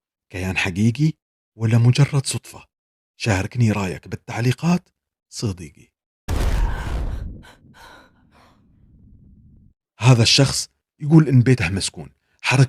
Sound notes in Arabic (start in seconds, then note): 6.5 تنهّد; 7.3 شهيق